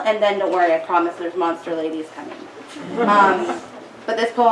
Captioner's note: audience giggles